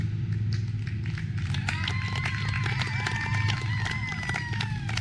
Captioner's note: audience clapping